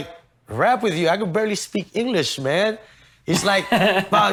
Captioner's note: laughs